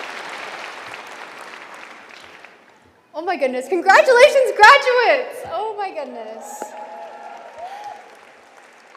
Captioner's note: applause